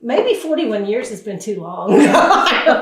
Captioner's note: laughs